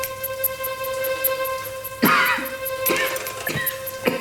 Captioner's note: coughing